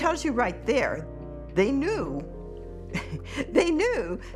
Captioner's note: chuckles